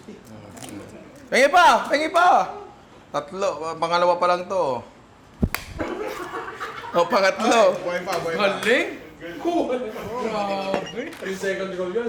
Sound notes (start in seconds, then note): 5.8 laughs